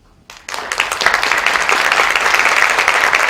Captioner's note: applause